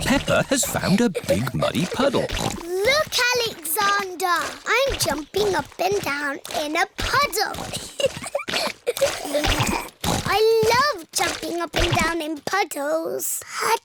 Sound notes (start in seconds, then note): 2.6 snorts; 7.8 giggling